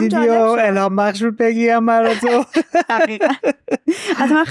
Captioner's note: laughs